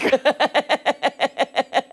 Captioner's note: laughter